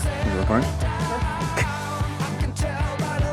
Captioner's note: chuckles